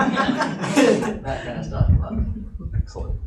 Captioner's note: audience laughing